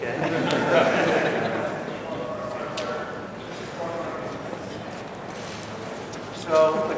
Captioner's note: laughter